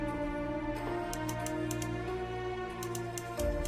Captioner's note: click-click-click